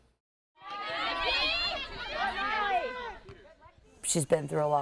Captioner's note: shouting, cheering